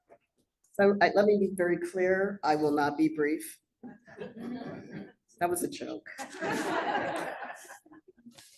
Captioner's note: laughter